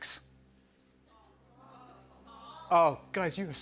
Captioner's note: audience shouting "False!"